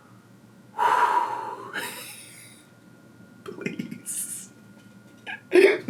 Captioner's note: sighs and laughs